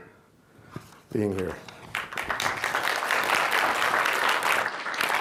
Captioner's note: applause